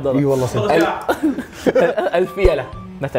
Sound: laughs

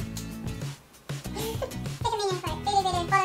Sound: laughs

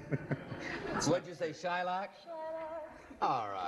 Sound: laughs; singsong

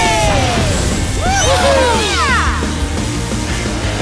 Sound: cheering

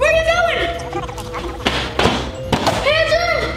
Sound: germs gibbering

